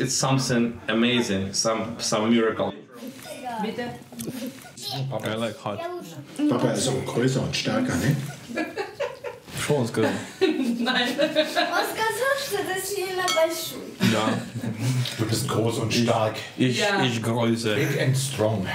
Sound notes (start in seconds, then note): 7.2 speaking German; 10.0 laughter; 15.7 speaking German